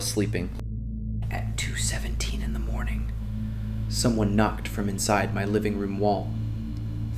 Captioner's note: whispers